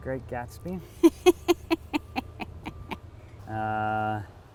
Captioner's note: laughs